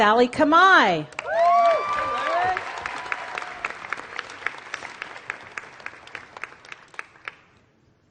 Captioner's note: applause